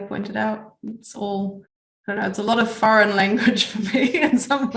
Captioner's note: laughs